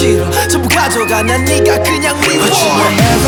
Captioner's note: nervous laugh